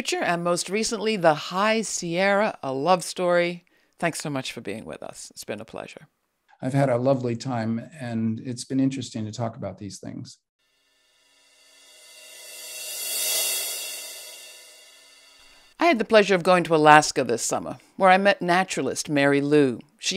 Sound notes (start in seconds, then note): 11.4 screen swooshing